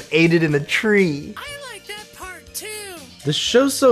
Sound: voice on TV

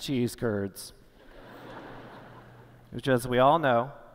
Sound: laughter

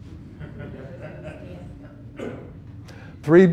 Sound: murmuring

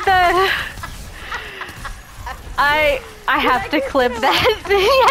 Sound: laughing

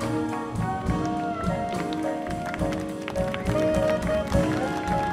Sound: audience applauding

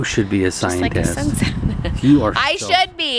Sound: laughing

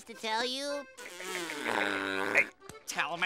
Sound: snickering

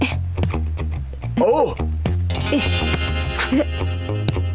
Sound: grunting

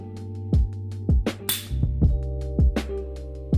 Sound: Se cierra el encendedor

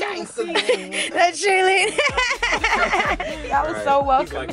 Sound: laughing

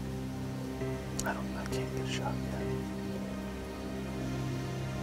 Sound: whispering

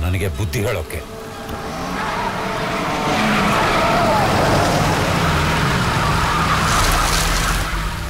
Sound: car Sound

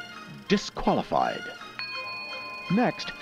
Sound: ding

